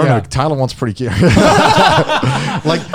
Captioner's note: laughs